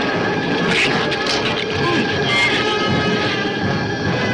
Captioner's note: thunder claps; shrew chatter